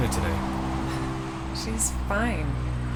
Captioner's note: chuckles